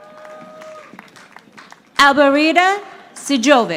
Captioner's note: audience applauding